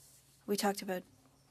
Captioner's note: speaking French